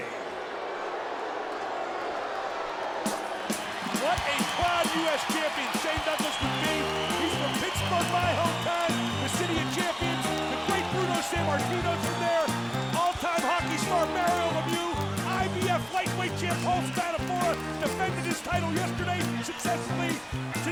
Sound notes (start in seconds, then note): 3.3 crowd cheers; 3.3 jazzy dance music